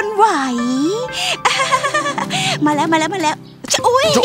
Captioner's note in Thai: หัวเราะ